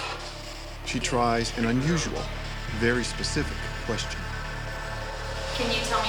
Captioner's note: voiceover